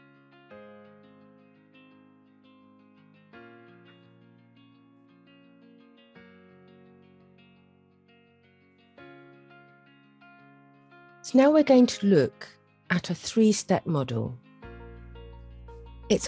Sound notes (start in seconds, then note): 0.0 silence for reflection